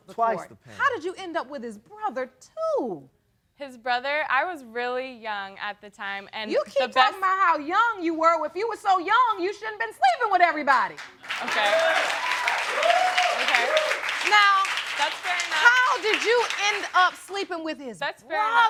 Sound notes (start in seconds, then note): 11.2 audience cheering; 13.1 audience applauding